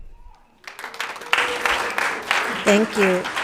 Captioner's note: applauds